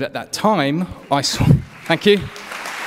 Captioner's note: applause